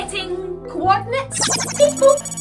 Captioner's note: electronic warble